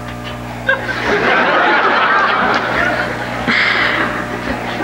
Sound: audience laughs

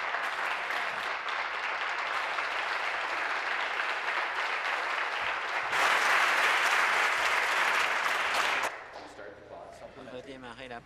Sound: applause

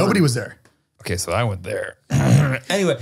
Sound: clears throat

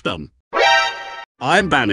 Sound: Metal Gear alert sound

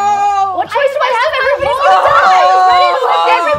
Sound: players screaming

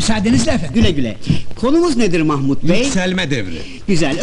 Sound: none

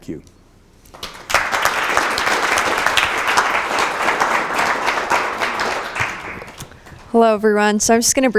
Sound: applause

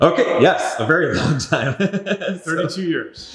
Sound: laughing

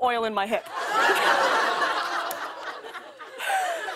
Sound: laughter

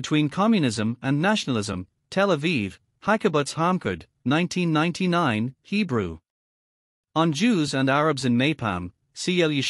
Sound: Hebrew

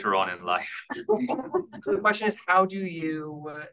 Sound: audience laughing

